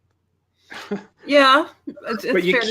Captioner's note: chuckles